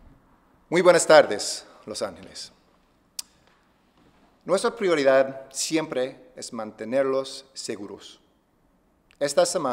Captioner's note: speaking spanish